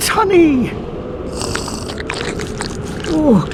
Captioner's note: slurping sounds from hell